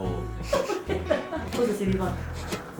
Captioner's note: laughter